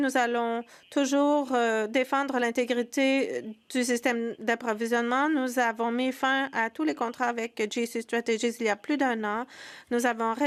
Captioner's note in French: voix de l'interprète